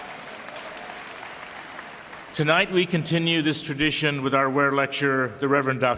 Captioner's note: applause